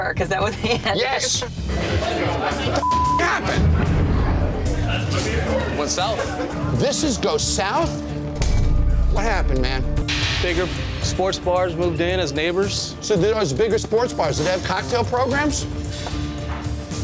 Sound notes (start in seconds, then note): 0.6 laughing; 8.6 metal clinking